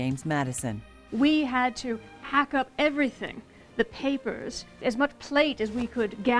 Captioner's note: yelling